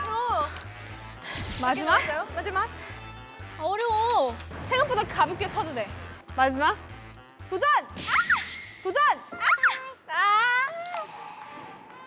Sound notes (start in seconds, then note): 8.0 aah!